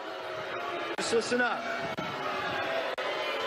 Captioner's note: booing increases